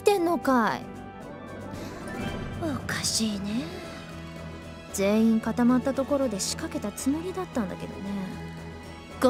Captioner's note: sigh